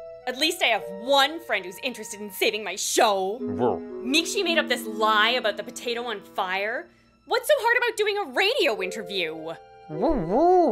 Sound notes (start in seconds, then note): none